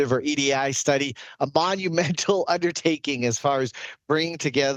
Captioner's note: chuckles